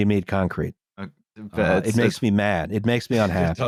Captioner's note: stammers